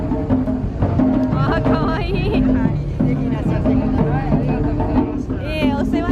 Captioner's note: speaking foreign language